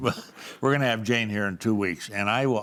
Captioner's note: laughs